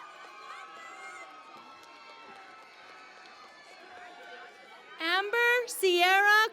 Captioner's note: cheering and Applause